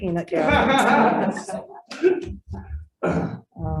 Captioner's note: laughs